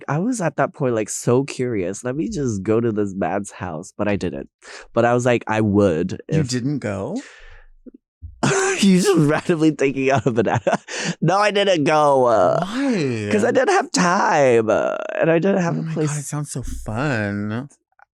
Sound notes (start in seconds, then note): 8.4 chuckling